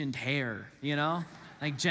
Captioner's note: congregants laugh